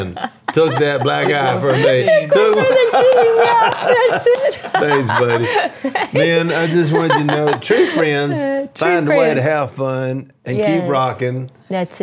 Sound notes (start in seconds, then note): 0.1 laughing; 4.4 laughs